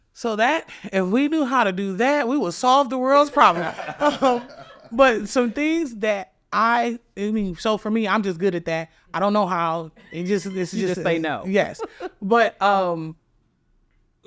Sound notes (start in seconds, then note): 3.3 all laughing; 11.6 chuckles